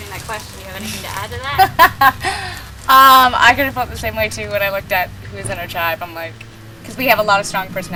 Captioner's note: laughing